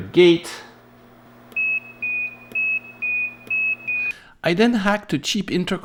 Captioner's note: individual beeps